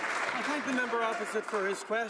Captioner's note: applause